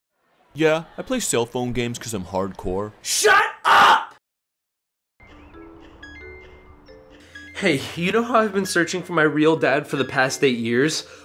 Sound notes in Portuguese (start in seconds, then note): 5.3 Jogo de vídeo emite um sinal sonoro